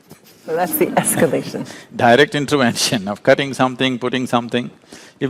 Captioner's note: laughs